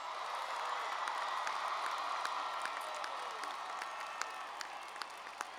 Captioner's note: cheers and applause